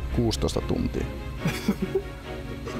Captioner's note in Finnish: hihittelyä